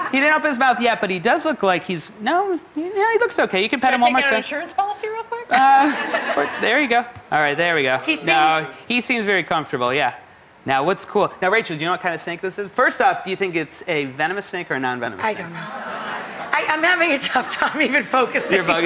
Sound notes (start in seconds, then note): 5.6 audience laughs; 15.5 audience murmuring